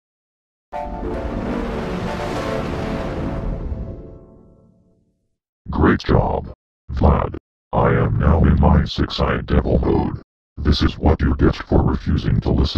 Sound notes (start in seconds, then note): 0.7 6-Eyed Devil Windows XP Startup Sound